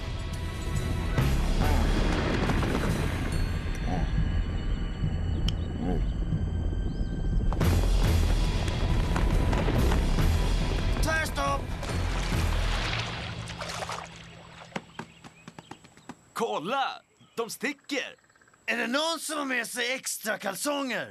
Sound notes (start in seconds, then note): 3.4 grunts softly